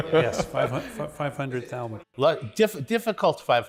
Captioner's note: laughs